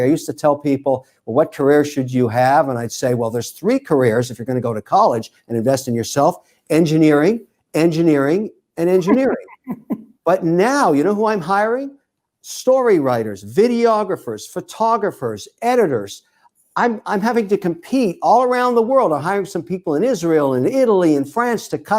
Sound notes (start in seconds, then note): 8.9 laughs